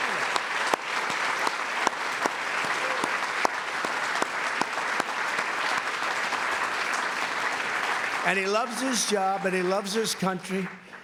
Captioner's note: applause